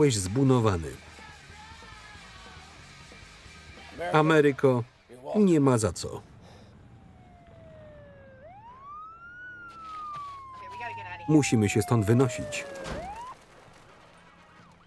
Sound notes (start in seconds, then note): 5.4 siren wailing; 11.8 sirens wailing